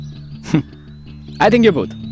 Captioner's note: Chuckles